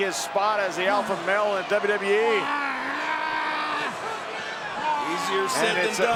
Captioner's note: Brock Lesnar screaming